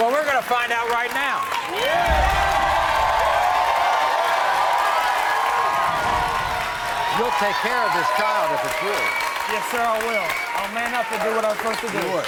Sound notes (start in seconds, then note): 0.0 audience cheering; 2.1 audience cheering